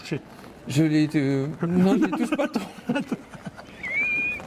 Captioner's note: laughs